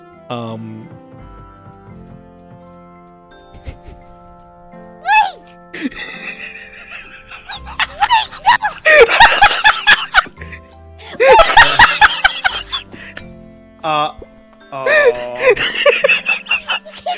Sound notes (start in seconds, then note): 3.3 chuckle; 5.8 laughing; 14.9 laughing